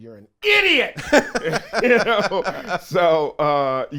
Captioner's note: laughs